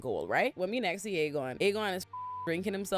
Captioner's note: beep